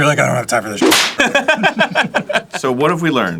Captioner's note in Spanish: ambos riéndose